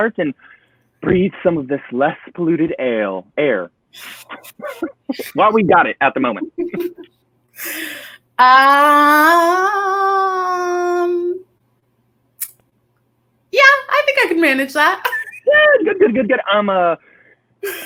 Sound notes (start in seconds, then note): 4.0 laughs; 15.0 chuckles